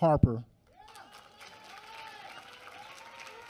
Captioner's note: applause